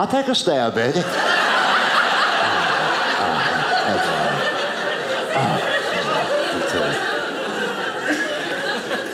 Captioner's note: audience laughing